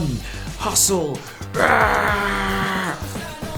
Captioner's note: grunting